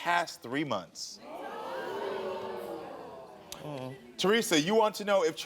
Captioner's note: audience reacting